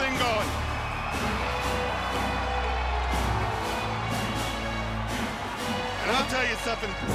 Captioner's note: crowd cheering; upbeat marching music